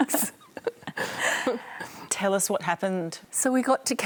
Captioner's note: laughs